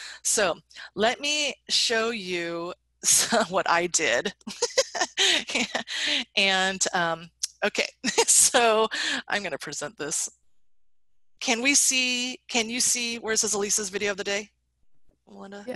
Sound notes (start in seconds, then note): 4.3 laughs